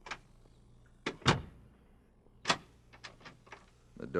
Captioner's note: door closes